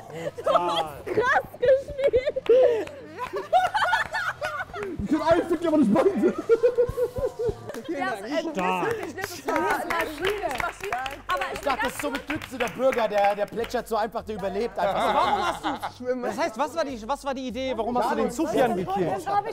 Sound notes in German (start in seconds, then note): 3.5 Lachen